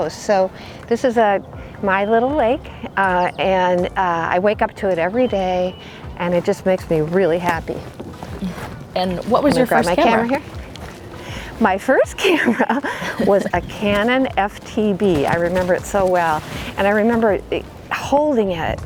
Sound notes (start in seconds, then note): 12.2 both laugh